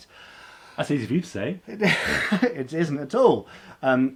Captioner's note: laughing